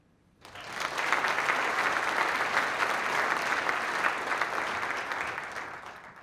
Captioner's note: applause